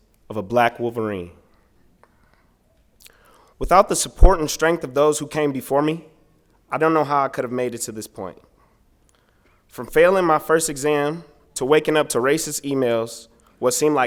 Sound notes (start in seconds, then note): none